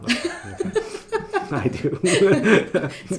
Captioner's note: laughing